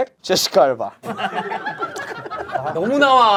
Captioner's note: laughing